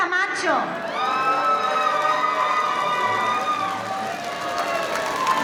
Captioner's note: audience cheering; audience applauding